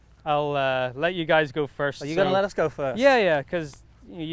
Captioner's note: none